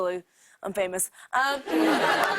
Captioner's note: laughter